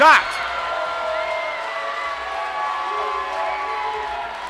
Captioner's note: crowd cheering